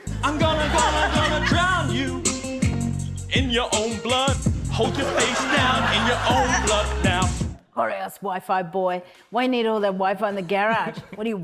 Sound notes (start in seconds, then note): 0.0 funky hip-hop beat plays; 4.8 laughter; 10.8 chuckles